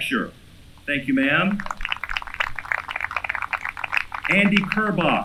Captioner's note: applause